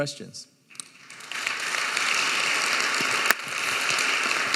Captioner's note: audience applauding